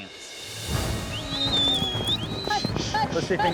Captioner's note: whistling; chattering, yelling